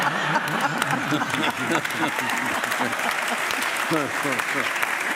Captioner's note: laughing; audience applauding